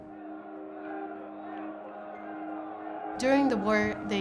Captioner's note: people shouting